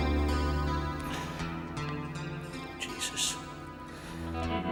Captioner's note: sighs